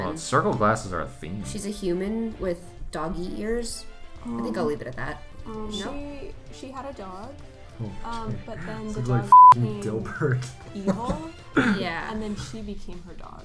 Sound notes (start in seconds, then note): 8.2 laughs